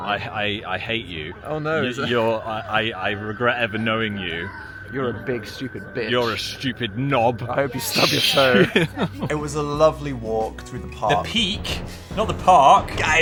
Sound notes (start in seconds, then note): 7.9 laughing